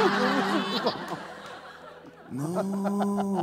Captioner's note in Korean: 엉엉